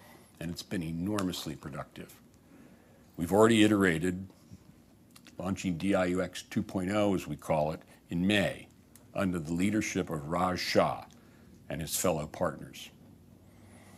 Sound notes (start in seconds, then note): none